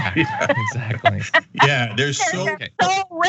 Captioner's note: laugh